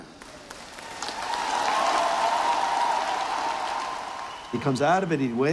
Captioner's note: cheers and applause